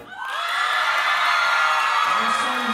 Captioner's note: audience cheering and applauding